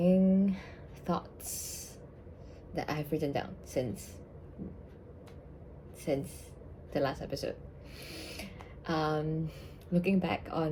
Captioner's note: deep breath count: 2